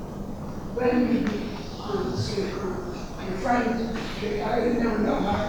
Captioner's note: rustling drowns out speaker